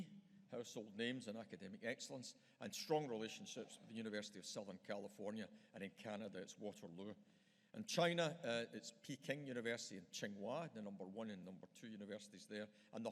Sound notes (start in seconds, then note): none